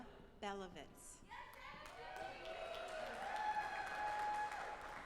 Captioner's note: audience applauding